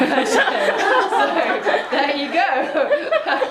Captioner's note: laughing